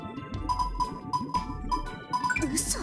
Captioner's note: slightly faster typing